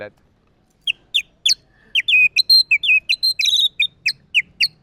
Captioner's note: mimics Fantail chirping